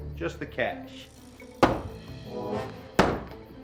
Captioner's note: thumping sounds